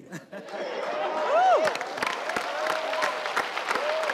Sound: audience cheering

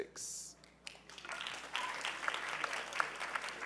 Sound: applause

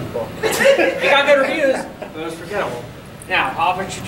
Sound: audience laughing

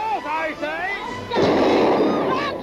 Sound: gun fires

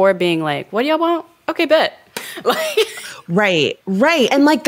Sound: chuckles

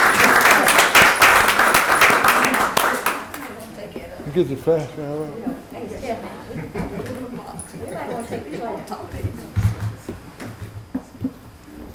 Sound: applause

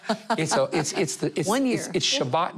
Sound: laughing

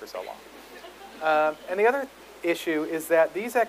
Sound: audience laughs

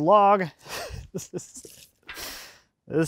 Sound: laughs

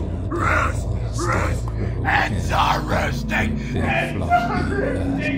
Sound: scarecrow whispers

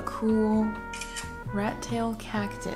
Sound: camera clicks

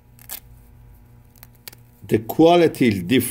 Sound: fabric ripping

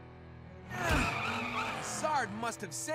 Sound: grunting

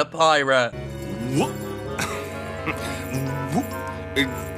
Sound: pirate babbling

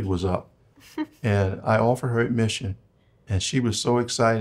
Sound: chuckles

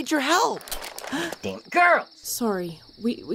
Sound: gun loading

